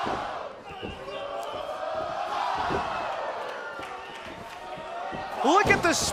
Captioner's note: fans chanting